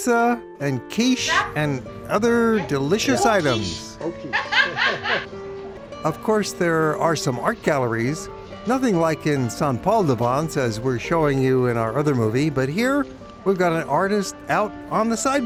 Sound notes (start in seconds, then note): 4.3 lady laughs